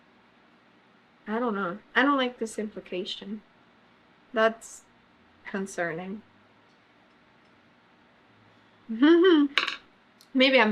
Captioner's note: laughs